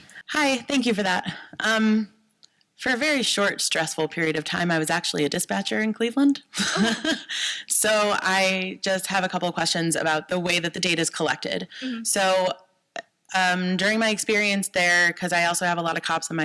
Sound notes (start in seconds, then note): 6.6 laughs